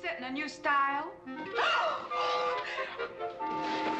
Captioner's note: gasping